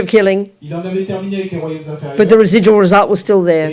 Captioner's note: speaking in French